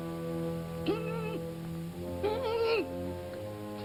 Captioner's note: whimpering